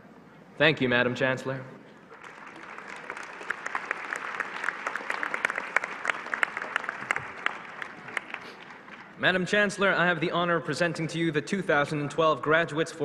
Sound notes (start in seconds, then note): 1.5 applause